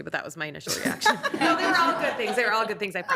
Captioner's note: attendees applauding